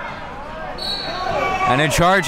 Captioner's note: whistle blows